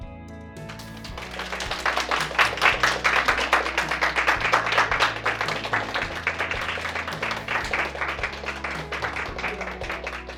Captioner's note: applause